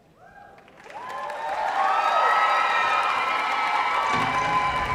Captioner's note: audience cheering